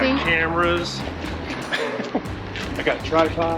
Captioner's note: laughing